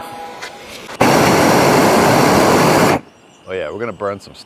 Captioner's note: speaks in foreign language; torch roaring